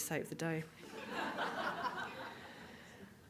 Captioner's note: audience Laughing